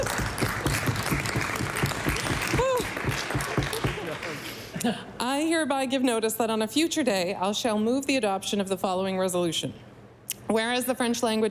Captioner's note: applause